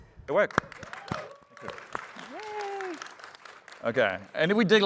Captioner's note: applause